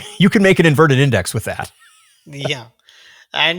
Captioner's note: chuckles